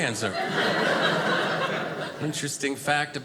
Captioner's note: audience laughing